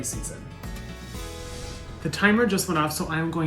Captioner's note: scene whooshing